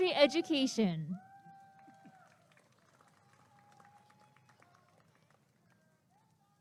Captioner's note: applause and cheering